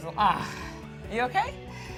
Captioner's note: sighs